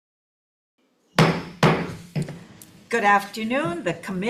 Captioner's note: gavel taps